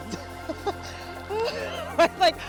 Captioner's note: laughs